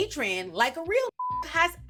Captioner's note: beep